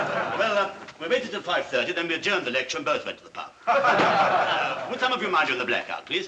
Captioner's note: all Laugh; all Laugh